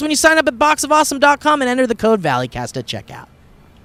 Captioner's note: none